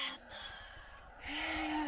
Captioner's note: ghostly voice; ghostly voice all around